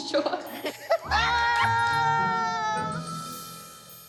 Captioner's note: laughs; cheering